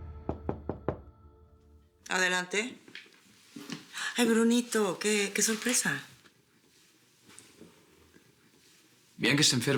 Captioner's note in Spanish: Toques en la puerta